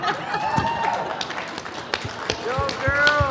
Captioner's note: laughing, cheering, and applause